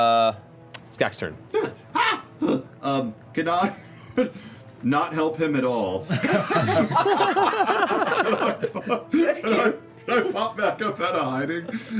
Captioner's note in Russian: нервные возгласы